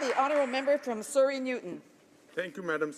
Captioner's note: some Applause